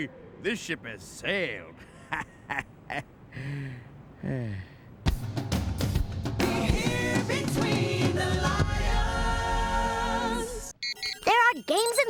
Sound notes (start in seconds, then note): 1.9 laughs sarcastically; 4.1 sighs